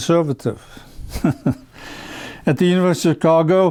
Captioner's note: giggles